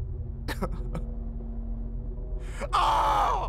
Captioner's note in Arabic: البكاء